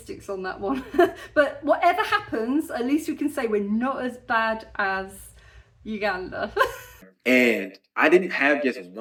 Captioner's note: laughing